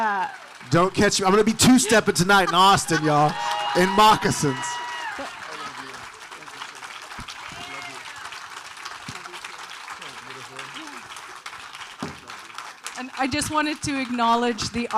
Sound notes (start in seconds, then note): 4.8 audience cheering; 11.5 audience applauding